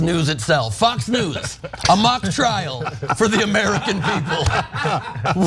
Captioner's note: laugh